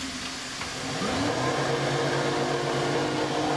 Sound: dull whirring

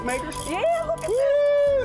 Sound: noise maker clicks

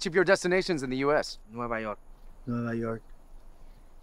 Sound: speaking Spanish

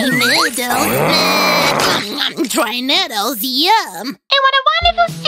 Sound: growls

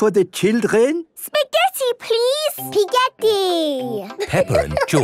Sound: laughing

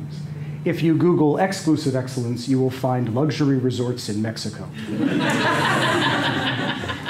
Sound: laughter

